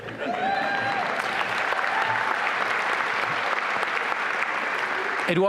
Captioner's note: applause and cheering